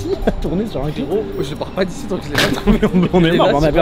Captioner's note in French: rire